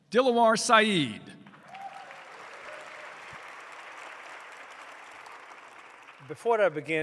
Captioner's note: applause